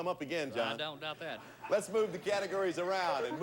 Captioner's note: audience laughing